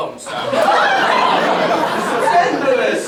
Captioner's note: hubbub